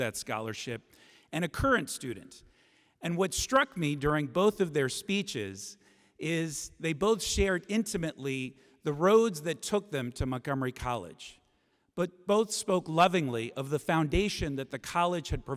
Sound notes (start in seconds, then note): none